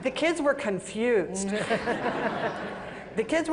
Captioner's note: laughter